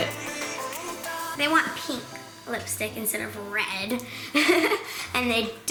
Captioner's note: laughs